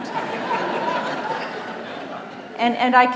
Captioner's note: audience laughs